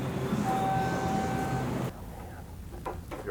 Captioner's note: elevator dings